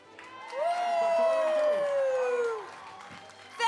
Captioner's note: applause